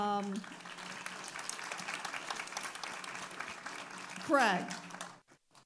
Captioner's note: audience applauding